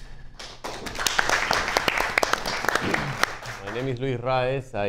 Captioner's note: audience applauds